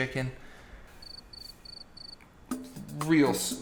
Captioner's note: crickets